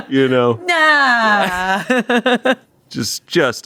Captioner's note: laughs